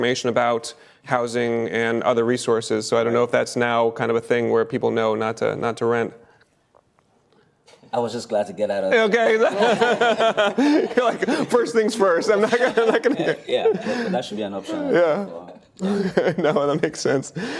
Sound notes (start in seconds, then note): 9.1 laughter